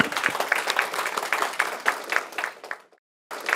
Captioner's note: applause